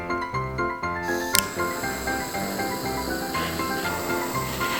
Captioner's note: flame whooshing